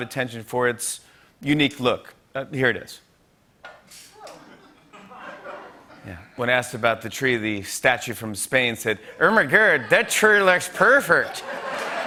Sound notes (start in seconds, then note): 4.2 laughter